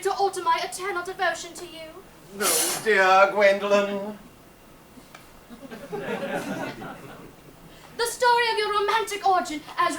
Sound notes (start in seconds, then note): 5.4 audience laughs